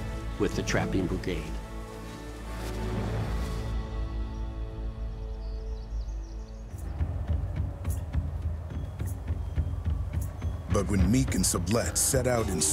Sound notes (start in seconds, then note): 3.8 birds chirping; 6.7 drums beating